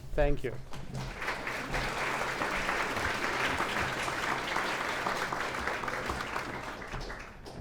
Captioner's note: clapping